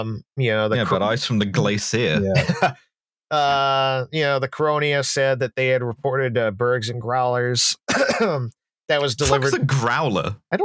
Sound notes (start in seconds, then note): 2.3 laughs